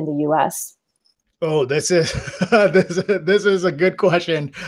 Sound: laughs

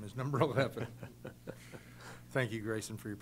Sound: laughs

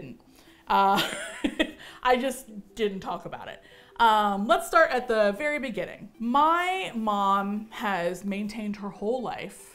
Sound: chuckles

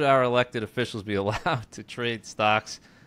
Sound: chuckles

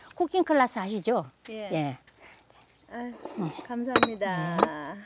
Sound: speaking foreign language

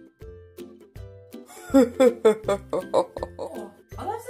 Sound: evil laugh

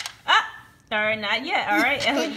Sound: voiceover

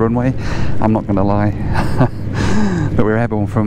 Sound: laughs

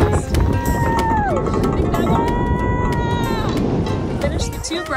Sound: shouting

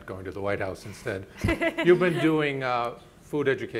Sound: panelists chuckling

